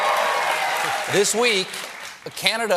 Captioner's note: applause